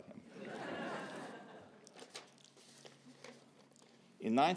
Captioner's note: laughter